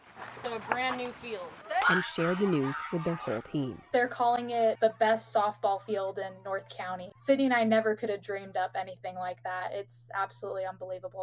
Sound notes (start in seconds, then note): 0.1 cheering and applause